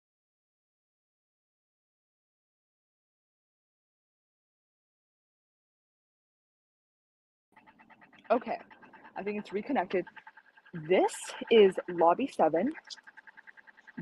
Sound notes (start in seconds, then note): none